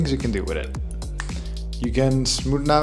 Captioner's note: fingers snapping